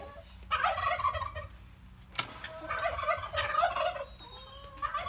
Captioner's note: turkeys gobbling